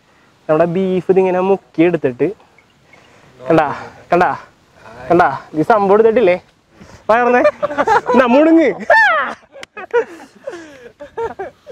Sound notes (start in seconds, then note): 7.3 laughing